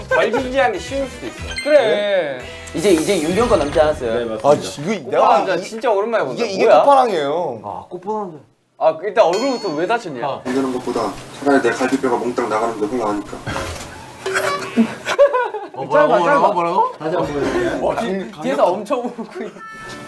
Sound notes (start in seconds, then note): 14.6 laughs